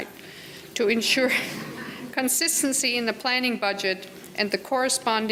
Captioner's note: laughs